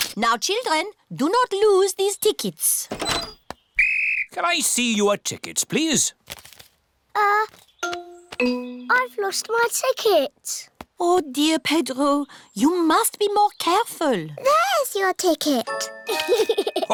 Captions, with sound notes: Now, children, do not lose these tickets. -(BLOWS WHISTLE) -Can I see your tickets, please? Uh... I've lost my ticket. Oh, dear, Pedro, you must be more careful. -There's your ticket. -(GIGGLES)